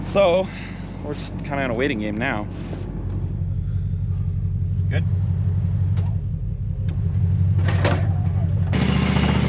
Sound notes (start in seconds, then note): 7.5 plow clunks; 8.5 truck beeps; 8.9 truck rumbles